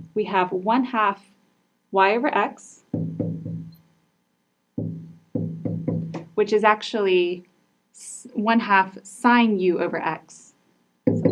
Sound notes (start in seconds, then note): 3.0 marker knocking